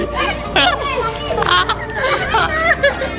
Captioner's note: laughing